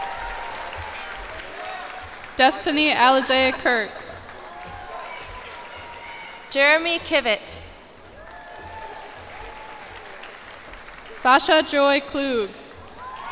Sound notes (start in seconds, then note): 0.0 cheers and applause; 8.0 cheers and applause